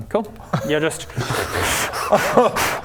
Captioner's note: smug laughter